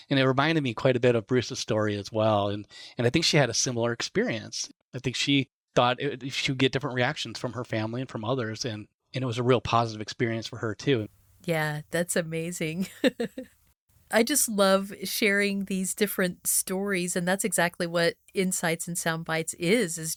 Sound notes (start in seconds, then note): 12.8 laughs